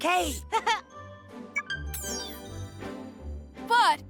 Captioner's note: tablet beeping